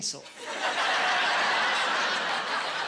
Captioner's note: laughing